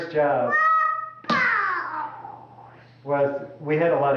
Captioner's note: sound of child playing with toys